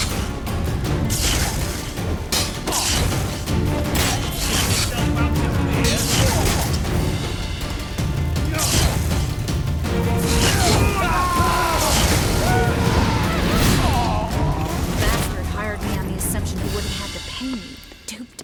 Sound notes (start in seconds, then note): 10.4 scream; 14.6 groan